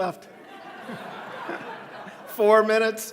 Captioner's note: audience laughing